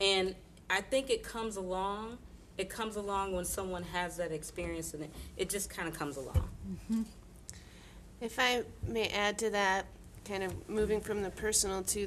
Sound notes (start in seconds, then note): none